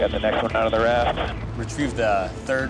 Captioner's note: man Over Radio